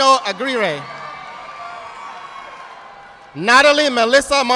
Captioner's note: audience applauding